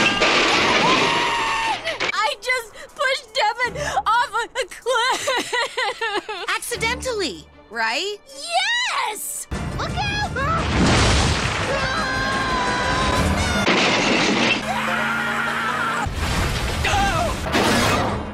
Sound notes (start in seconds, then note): 11.7 both screaming; 12.9 crash; 14.6 Owen screams; 16.0 crash